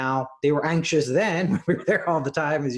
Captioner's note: laughs